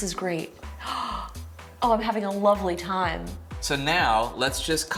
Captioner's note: gasps